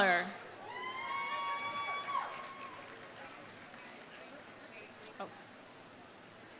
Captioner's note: audience cheering; audience applauding